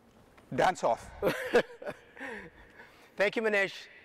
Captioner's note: chuckles